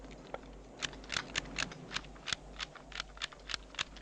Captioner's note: gun clacking